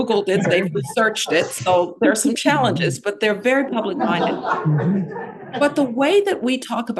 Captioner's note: laughter; laughter